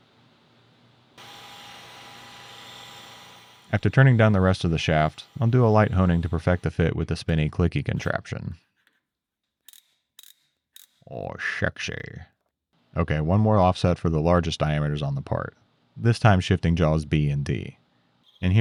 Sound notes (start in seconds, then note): 1.2 machine whirring; 11.2 contraption clicking